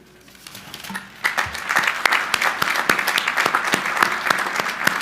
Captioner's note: crowd applauding